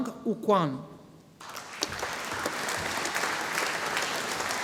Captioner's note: audience applauding